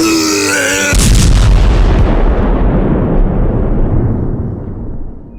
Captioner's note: bowser vomits; brobot explodes